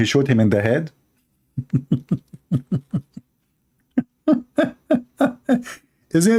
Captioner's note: Ketawa